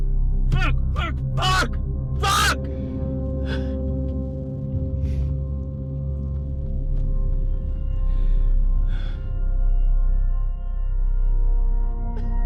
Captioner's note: crying noises